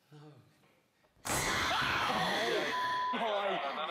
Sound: woman's scream

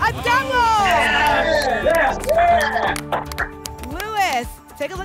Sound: applause and cheering

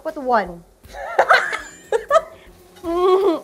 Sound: laughs

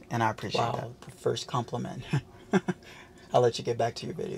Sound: laughs

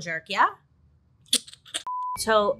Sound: lips smacking

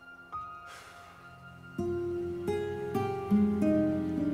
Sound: Thomas sighs

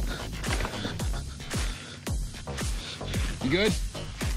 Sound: rocks falling; heavy breathing

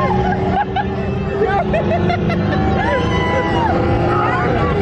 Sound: laughs

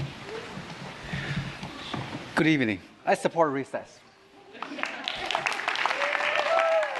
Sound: applause

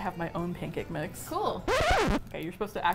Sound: record scratch

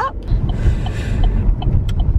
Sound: sharp inhale

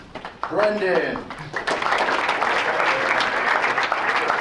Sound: applause

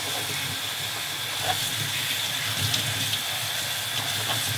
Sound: water hissing

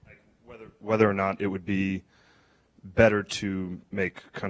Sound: voiceover

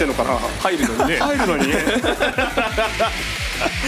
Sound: laughs

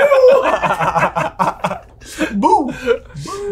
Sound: laugh

